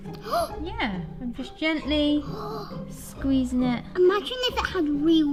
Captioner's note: gasps